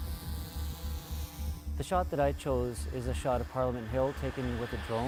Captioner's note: drone whirs